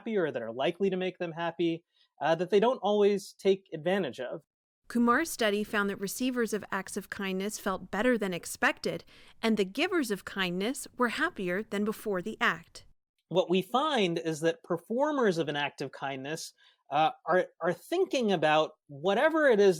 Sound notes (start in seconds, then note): 5.2 voice-over